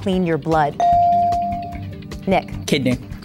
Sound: bell dinging

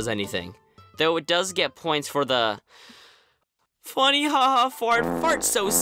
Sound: sigh

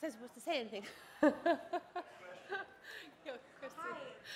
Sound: laughs

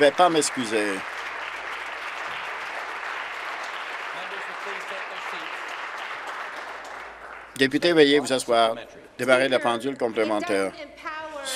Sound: applause

